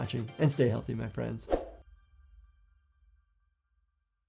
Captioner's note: air whooshes